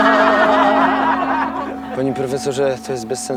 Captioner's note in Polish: głośny śmiech klasy